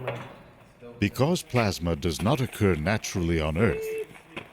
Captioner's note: voiceover